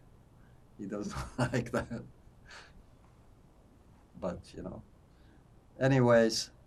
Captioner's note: laughing